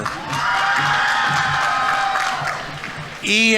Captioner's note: audience applauding; audience members cheering